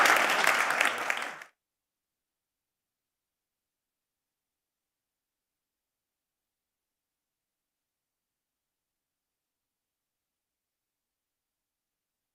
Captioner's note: applause